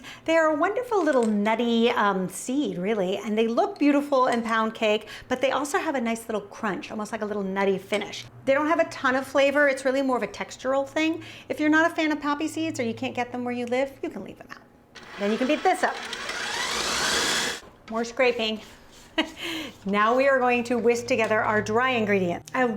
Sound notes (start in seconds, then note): 14.9 blender whirring